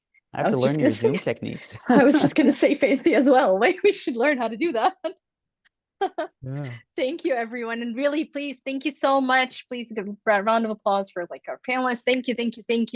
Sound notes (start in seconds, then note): 5.1 laughs